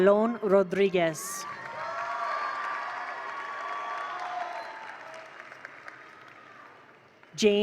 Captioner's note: attendees cheer; attendees applaud